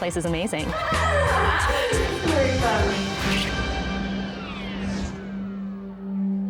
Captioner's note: contestants laughing